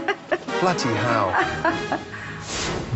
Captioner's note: laughing; whooshing